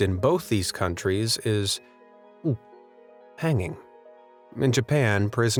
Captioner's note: gulps